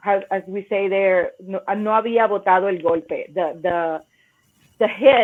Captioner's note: speaks Spanish